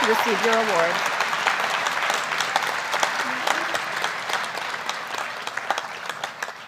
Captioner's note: applause